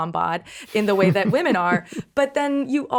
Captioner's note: Justin chuckling